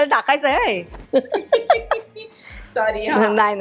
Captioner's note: chuckles